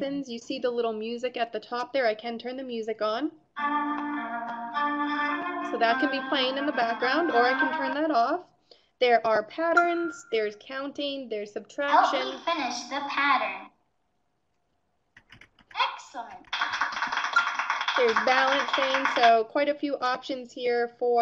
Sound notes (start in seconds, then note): 3.6 nursery music; 11.7 computer voiceover; 16.4 clapping